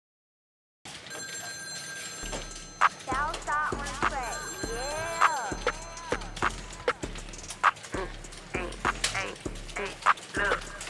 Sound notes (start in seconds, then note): 0.9 phone ringing